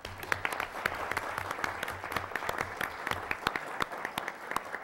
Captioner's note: applause